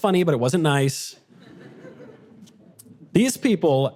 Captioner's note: audience laughter